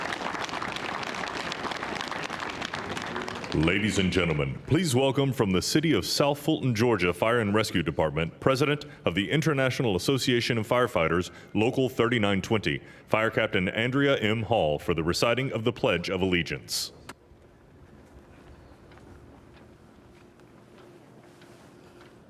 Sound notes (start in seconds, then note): 0.0 applause; 3.2 cheering